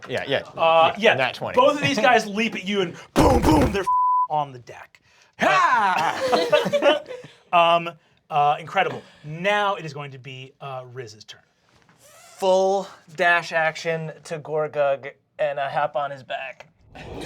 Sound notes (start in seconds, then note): 5.4 they laugh